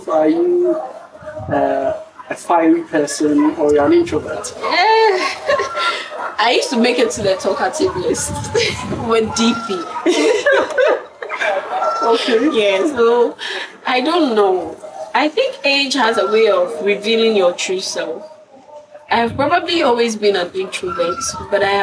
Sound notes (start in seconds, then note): 10.3 laughs